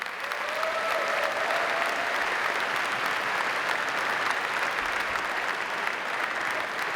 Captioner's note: audience applauding; audience cheering